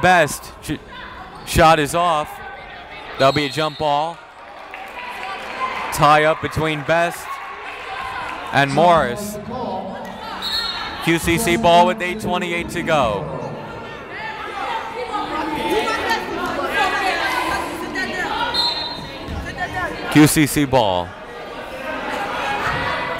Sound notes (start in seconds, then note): 0.0 yelling; 14.5 yelling; 18.5 whistle blowing